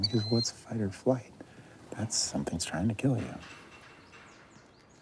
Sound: thud of hooves

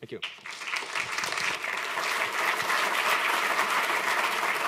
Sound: applause

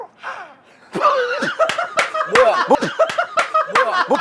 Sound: laughs

